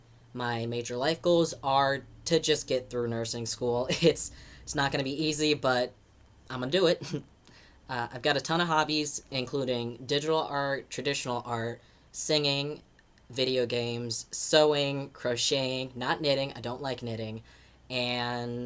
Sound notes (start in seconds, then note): 7.0 chuckle